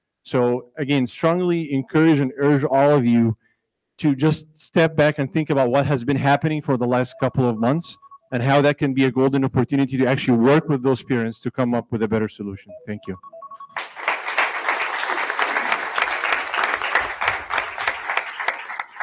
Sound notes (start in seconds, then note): 13.6 attendees clapping